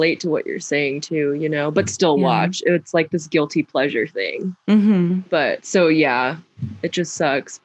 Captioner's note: mhmm